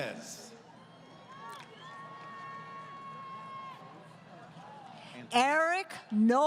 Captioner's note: crowd Cheering